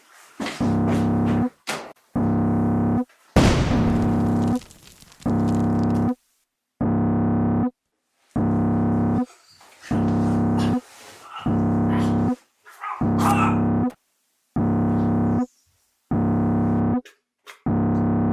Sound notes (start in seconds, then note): 3.4 loud explosion; 3.4 rubble falling; 6.9 alarm sounding